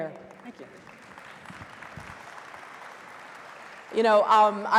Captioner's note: audience applauding